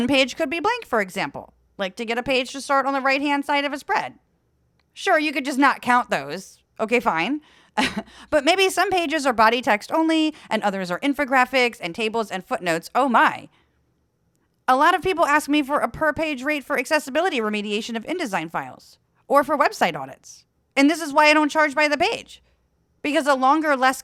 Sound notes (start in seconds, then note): 7.8 laugh